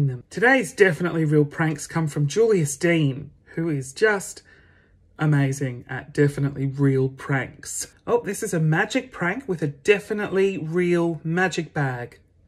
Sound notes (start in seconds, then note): none